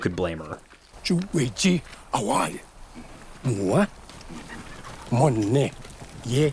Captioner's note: man speaking foreign language